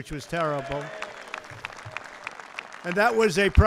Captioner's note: applause